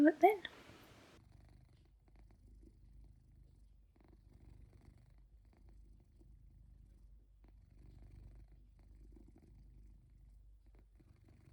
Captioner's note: soft purring